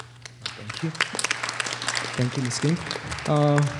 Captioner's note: applause